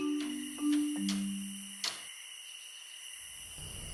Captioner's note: sound of crickets